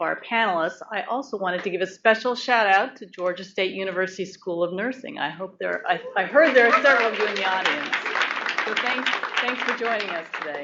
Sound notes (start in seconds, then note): 6.3 applause